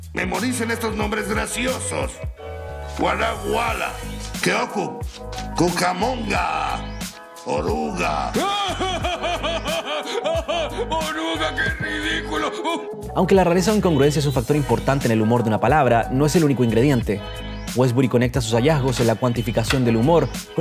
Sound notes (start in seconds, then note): 8.4 laughter